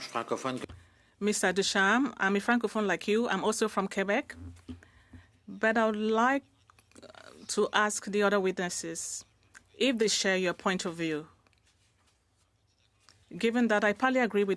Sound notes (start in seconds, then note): 4.0 speaking French